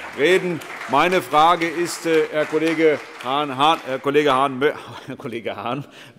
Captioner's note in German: Heiterkeit und Beifall SPD, AfD und Freie Demokraten